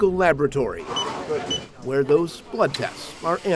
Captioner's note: scanner beeps